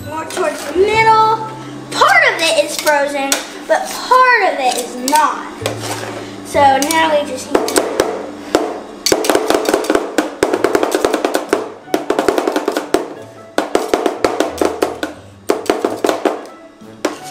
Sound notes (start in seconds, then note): 9.0 spatula chopping